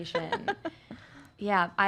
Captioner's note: laughs